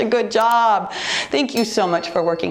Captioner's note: timer beeps